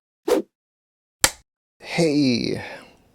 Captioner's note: whoosh, film clapper sound